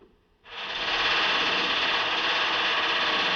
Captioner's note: machine Clanking